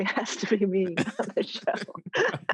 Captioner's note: all laugh